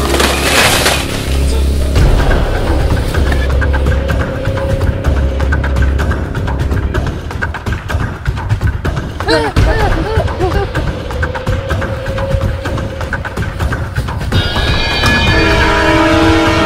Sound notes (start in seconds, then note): 2.4 suspenseful music; 9.2 whimpering; 13.0 dark, suspenseful music